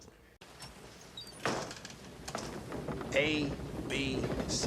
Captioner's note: board creaks